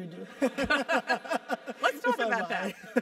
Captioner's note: laugh